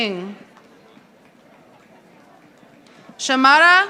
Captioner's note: audience applauding